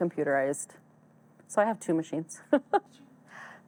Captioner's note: laughs